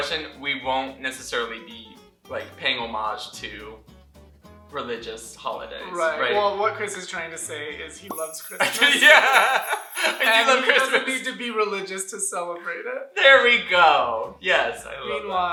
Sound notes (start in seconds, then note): 8.1 sleigh bells